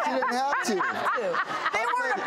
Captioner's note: audience and panel laughing